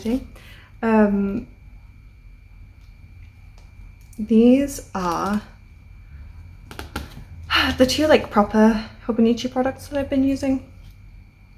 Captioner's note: sigh